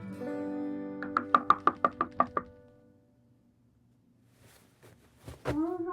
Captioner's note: hand knocking on door